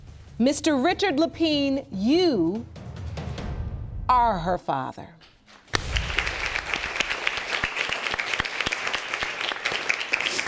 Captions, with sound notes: Mr. Richard Lapine, you... Are her father. (APPLAUSE)